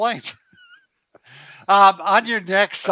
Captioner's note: laughter